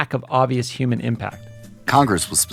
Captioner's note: soundbite of archived recording